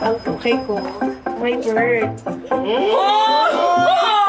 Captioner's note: screaming